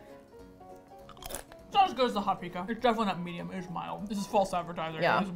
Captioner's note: mouth full